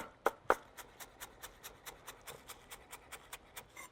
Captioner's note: chives crunching softly